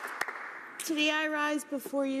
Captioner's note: some Applause